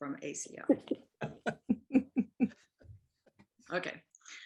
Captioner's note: laughs